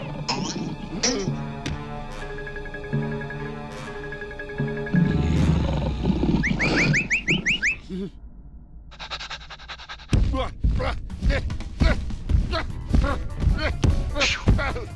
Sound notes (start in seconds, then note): 0.2 boing; 4.9 growling; 6.3 whistling; 8.9 panting; 9.9 grunting